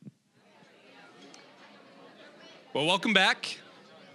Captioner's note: general chatter